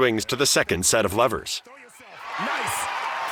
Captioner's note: cheers and applause